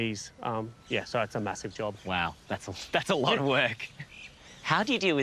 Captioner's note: chuckles